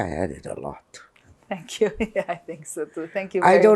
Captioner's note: laughing